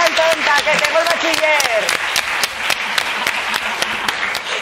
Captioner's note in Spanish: Aplausos